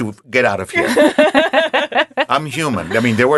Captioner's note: laughing